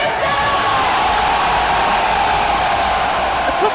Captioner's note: Crowd cheers